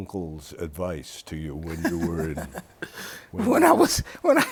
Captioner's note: laughs